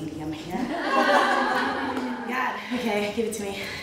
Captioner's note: all laughing